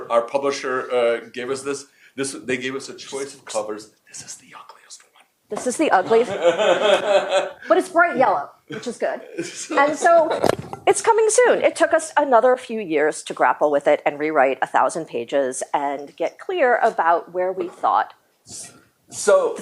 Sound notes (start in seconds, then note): 6.0 laughs